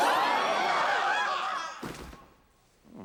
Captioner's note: all screaming